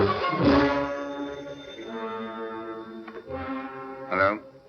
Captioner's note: phone ringing